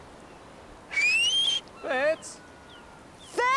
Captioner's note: whistling